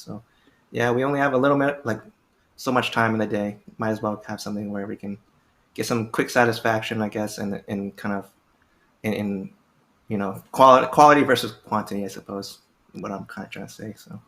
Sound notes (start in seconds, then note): none